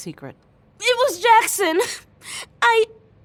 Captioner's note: between sobs